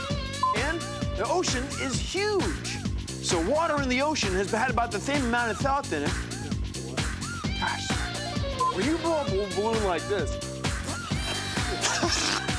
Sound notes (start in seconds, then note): 4.5 lisping; 10.9 laughs